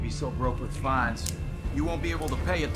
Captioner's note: knife clicks